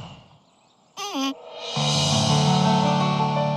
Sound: sighs

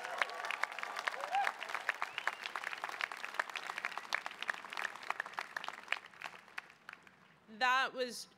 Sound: cheering

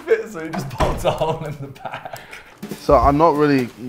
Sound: laughs

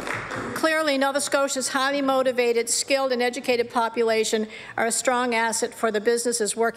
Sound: applause

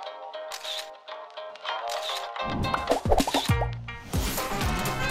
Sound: light music; camera clicks; upbeat music

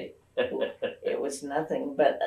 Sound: laughs

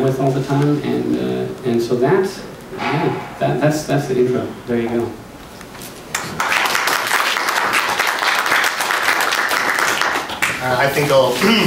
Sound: applauses

